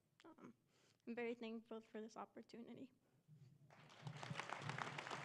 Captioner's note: speaking spanish; applause